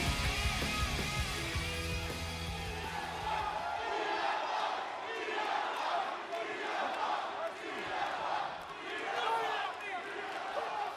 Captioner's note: crowd cheering